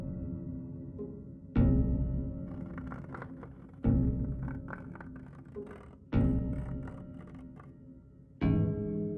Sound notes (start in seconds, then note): 2.4 scratching; 6.0 suspenseful music